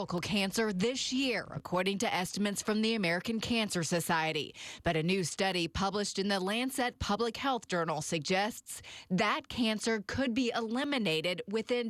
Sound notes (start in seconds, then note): none